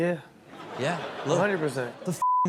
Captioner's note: audience laughs